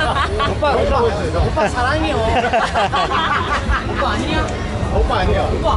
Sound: Korean; Korean

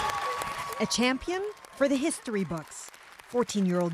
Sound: cheers and applause

